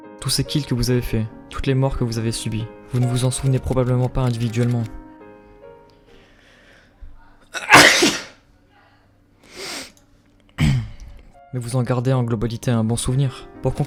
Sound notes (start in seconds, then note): 6.0 breath; 7.5 sneeze; 9.5 sniffle and click; 10.5 clear throat